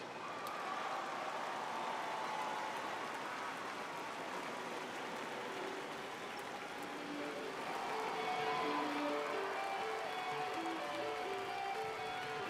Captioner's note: cheers and applause